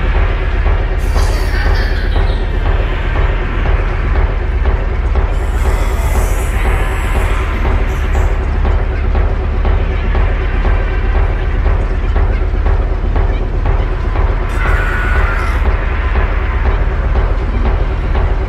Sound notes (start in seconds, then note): 1.1 laughs maniacally; 5.3 growls/hisses; 14.4 growls